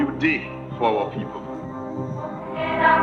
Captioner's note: soundbite of archived recording